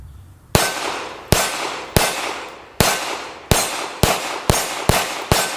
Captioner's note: gun fires